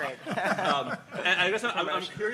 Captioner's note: laughing